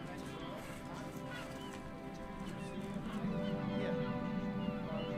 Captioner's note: indistinct chatter